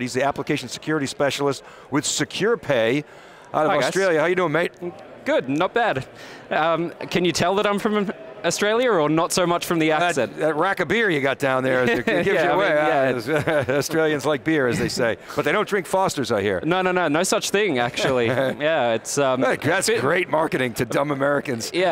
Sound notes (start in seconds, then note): 11.7 laughing